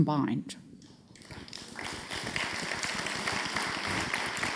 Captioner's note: audience applauds